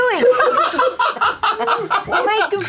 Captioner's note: laughter